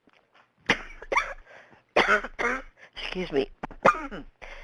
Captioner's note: coughs